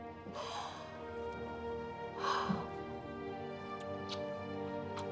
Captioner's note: Debi exhales deeply